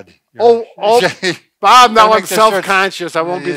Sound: laughing

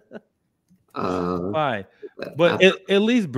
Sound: laughs

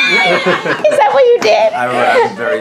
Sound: laughs

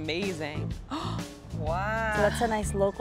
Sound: gasps

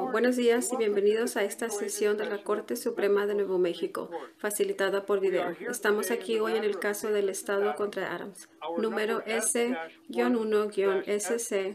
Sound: speaking spanish

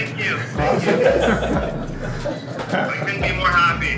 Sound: laughter

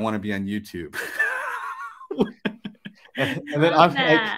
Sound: laughs

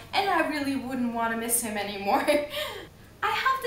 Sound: laughs

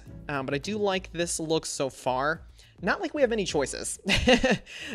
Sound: laughs

